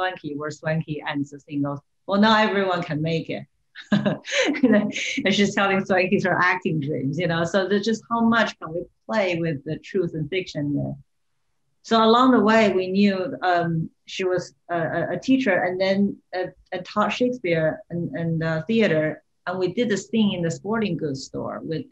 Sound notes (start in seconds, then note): 3.8 laughter